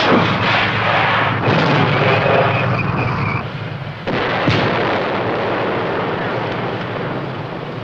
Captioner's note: explosions